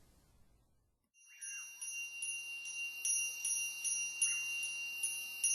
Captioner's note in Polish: dzwonek dzwoni